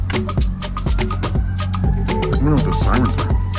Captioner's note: sirens wailing